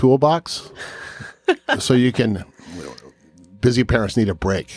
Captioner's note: chuckles